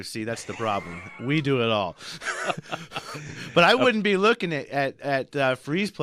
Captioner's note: laughs